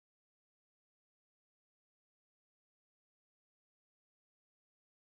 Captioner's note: indistinct chatter